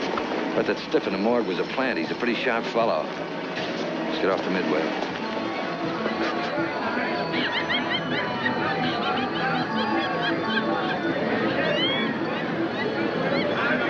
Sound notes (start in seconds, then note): 5.1 cheerful music; 6.0 animatronic laughing